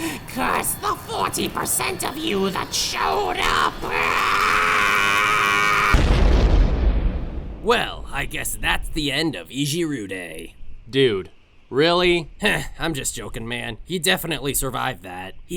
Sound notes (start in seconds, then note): 5.8 explosion